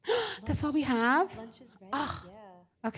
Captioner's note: gasps